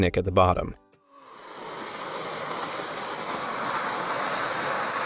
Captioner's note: landslide rumbling